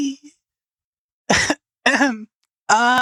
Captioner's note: fake Coughs